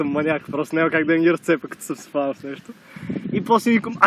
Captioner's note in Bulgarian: казано с усмивка